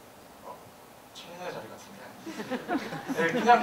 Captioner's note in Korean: 웃음